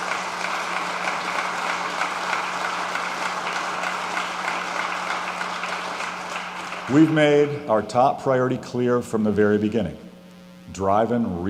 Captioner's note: applause